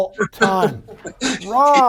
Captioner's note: laughs